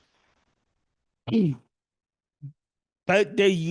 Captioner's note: cough